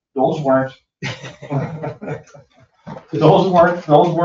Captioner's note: all laugh